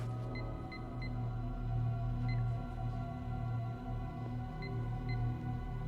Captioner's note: suspenseful music; phone keypad beeps